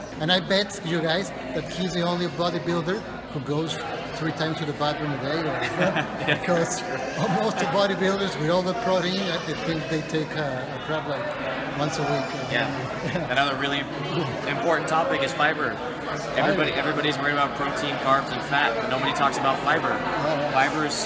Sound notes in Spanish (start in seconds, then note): 12.9 risas